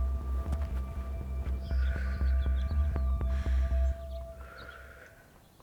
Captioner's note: measured breathing